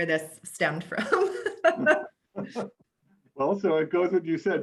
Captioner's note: both laugh